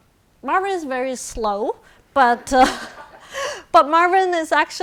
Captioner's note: audience laughing